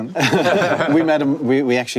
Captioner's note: panelists laugh